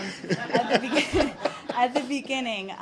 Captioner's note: laughter